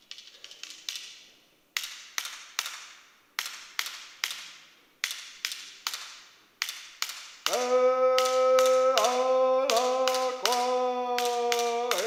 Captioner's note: chanting